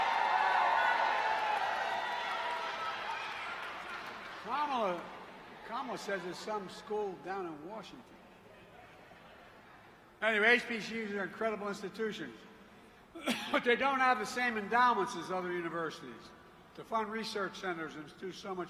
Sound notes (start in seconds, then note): 4.3 applause